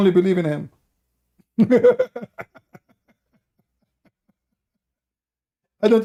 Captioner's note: Ketawa